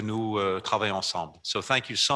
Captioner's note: in French